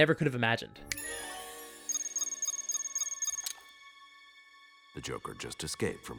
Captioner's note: beeping